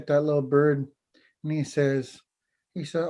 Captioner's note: foreign language